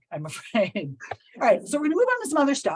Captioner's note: chuckles